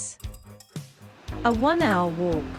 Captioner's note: waterfall sound